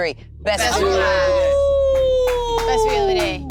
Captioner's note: howling